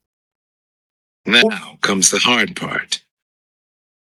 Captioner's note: audible book playing